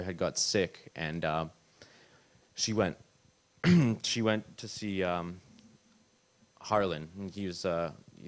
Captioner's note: clears throat